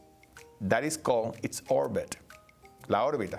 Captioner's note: speaking Spanish